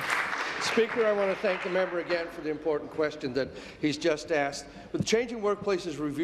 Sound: applause

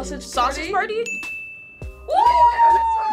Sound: bell dings

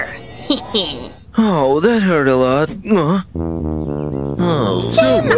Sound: disgruntled exclamations

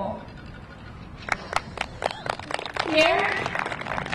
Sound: audience clapping

